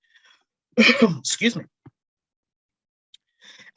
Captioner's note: cough